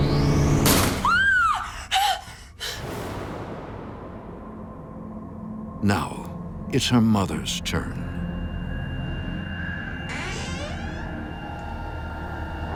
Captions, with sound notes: (door slams) (screams) Now, it's her mother's turn. (door creaks)